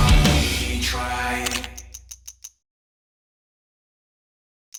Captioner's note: camera clicking